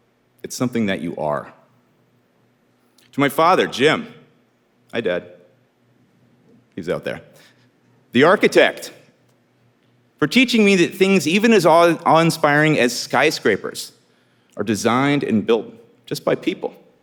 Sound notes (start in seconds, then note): none